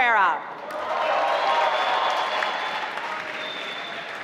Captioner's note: applause